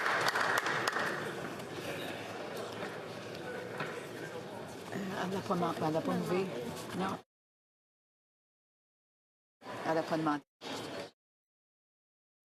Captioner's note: some Applause